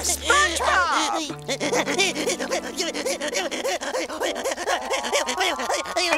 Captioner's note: sobbing